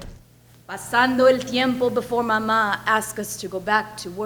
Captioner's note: speaks in foreign language